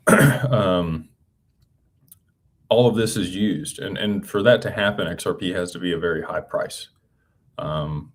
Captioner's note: clears throat